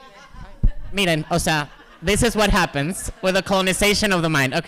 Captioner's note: speaking spanish